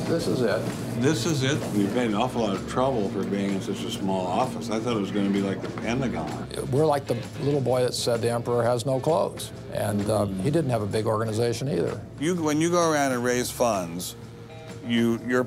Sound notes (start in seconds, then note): none